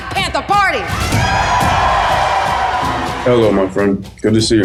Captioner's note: crowd cheers